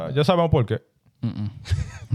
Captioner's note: speaking In Foreign Language